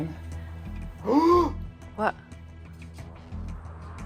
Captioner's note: gasps